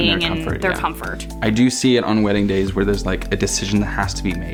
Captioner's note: none